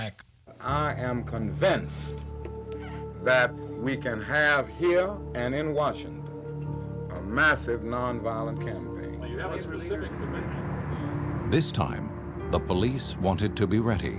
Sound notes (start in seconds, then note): 9.3 indistinct chatter